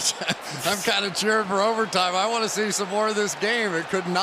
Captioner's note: chuckles